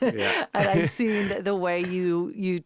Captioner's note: Josh laughing; interviewer laughing